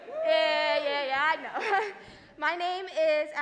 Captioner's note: crowd talking; laughing